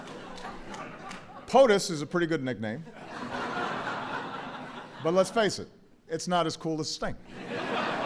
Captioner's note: laughter; laughter